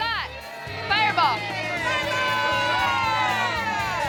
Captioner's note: cheers